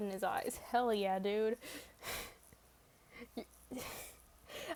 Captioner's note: laughs